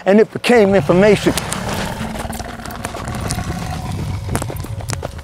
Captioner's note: feet thumping